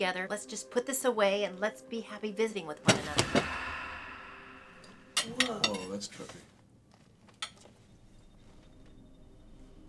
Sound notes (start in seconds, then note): 2.7 soft dramatic music; 2.8 book thudding